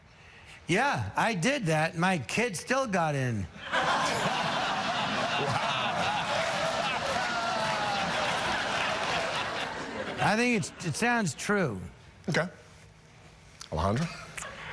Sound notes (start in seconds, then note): 9.5 audience laughing